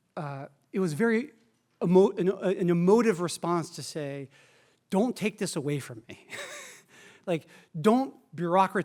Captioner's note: laughs